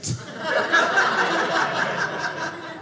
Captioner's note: audience laughing